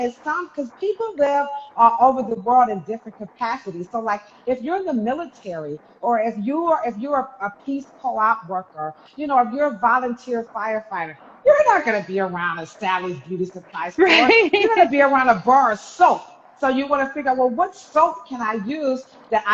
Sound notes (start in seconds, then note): 14.0 chuckles